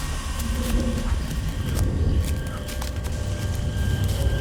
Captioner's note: panting